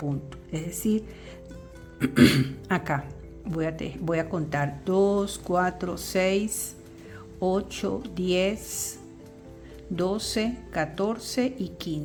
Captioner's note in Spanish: carraspeo